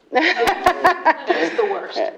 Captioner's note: laughter